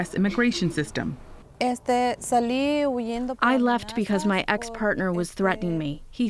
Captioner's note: through translator